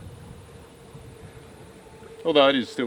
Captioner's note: boat engine whirring